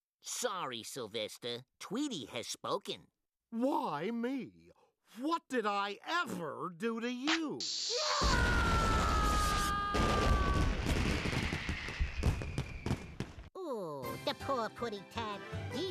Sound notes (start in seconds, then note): 7.9 yelling